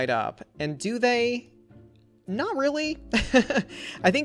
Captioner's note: laughs